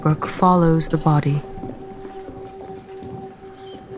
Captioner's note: voices murmuring